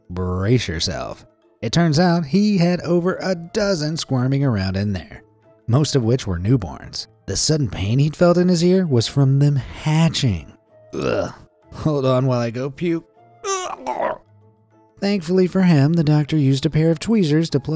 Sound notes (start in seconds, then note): 13.4 gags